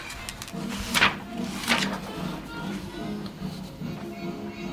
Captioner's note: paper tugging